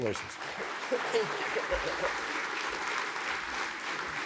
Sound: applause

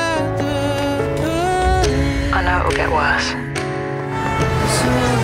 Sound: clock ticking; vehicle horn

